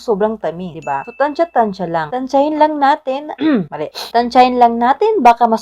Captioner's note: clears throat